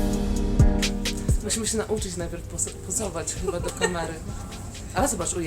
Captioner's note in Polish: śmiech w tle